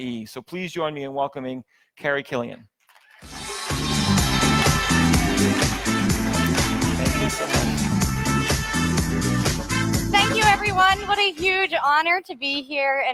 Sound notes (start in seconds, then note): 3.2 audience applauds; 3.2 upbeat music